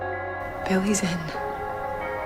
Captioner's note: voiceover